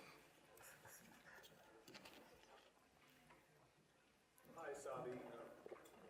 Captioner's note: people whispering faintly